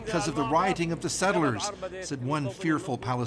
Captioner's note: speaking alternate language